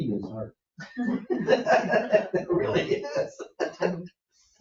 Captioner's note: group laughing